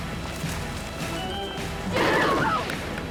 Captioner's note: rapid gun fire